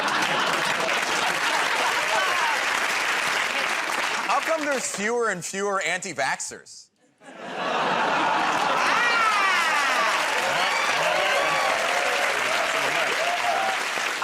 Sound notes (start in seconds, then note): 0.0 applause; 7.0 laughter; 10.7 cheers and applause